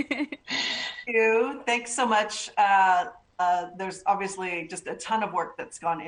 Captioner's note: laughter